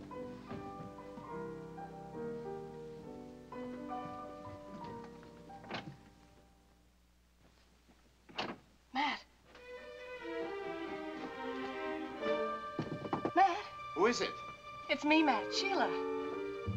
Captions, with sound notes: (Gentle music) Matt! (Suspenseful music) (Sheila knocking) Matt! Who is it? It's me Matt, Sheila.